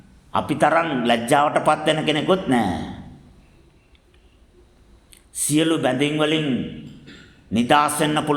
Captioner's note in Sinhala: උගුර කෑරීම